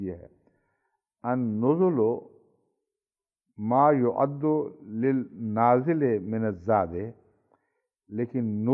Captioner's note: Arabic